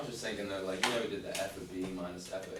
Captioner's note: voiceover